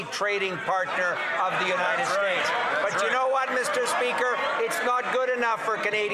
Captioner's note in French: voix de l'interprète